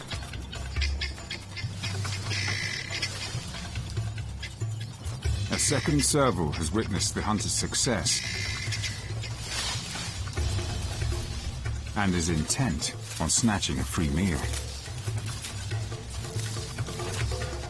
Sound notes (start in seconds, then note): 2.7 dramatic music; 2.7 leaves rustling